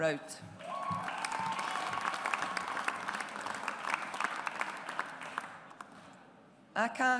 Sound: audience applauds

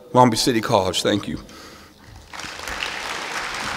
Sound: applause

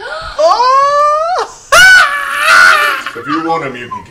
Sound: screams

